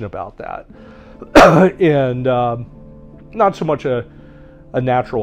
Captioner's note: coughing